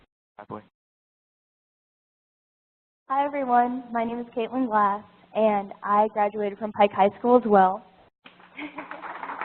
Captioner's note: applause